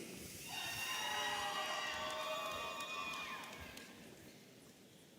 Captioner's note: audience cheering